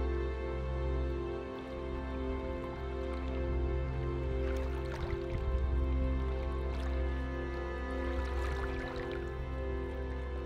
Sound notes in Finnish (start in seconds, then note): 2.3 rantaveden ääniä